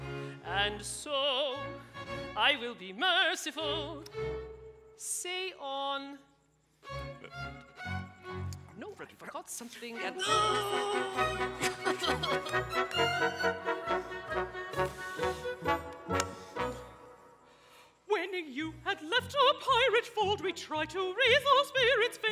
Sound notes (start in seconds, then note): 10.2 he whimpers; 11.8 bright music